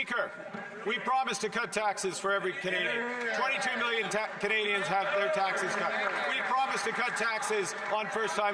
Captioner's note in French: voix de l'interprète